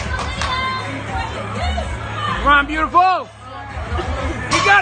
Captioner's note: spectators cheering